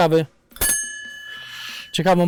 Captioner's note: bell sound